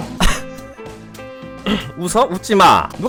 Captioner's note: holding Back Laughter